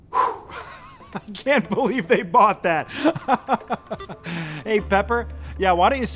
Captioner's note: exhales; laughing